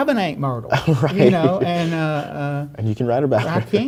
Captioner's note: laughs